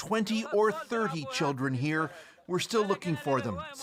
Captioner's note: speaking alternate language